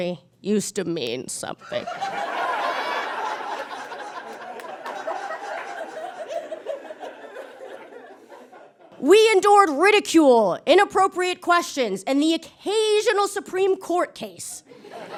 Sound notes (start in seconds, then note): 1.8 audience guffaws; 5.6 audience giggles